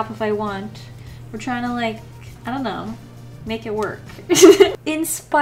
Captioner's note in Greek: Γέλια